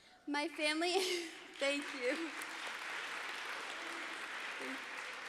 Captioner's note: audience applauds